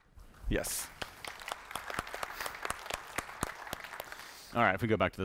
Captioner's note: applause